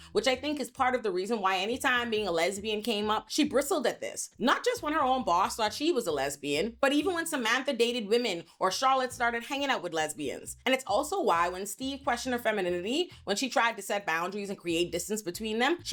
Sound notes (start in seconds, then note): none